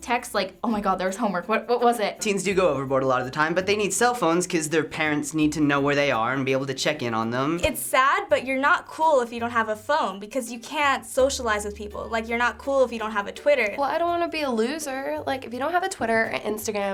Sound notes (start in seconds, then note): none